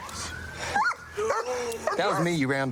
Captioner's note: dog barks